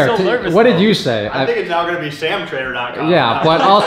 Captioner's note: laughing